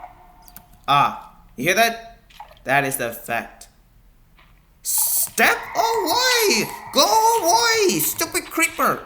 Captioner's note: heart beat